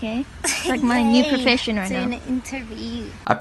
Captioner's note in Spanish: risas